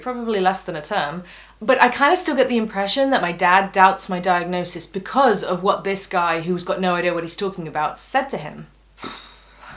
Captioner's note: exhales frustratedly